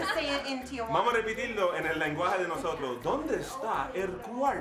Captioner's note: speaking Spanish